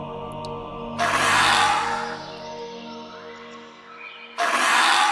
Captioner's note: dinosaur squawking